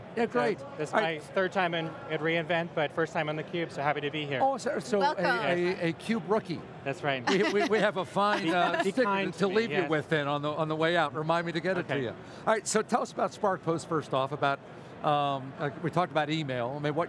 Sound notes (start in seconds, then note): 8.3 laughs